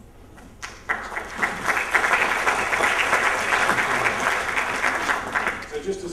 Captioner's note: applause